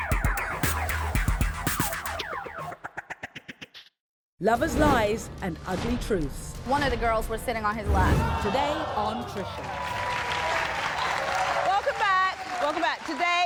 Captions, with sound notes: Lover's lies and ugly truths. - One of the girls was sitting on his lap. - Today on Trisha. (audience applauds) Welcome back, welcome back,